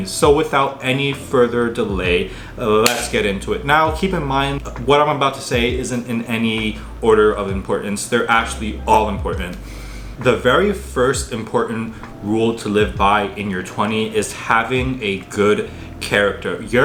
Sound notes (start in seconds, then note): 2.8 hand slapping